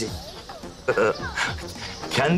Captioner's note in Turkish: Gülme sesi